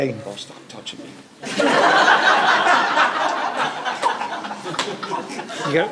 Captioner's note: laughter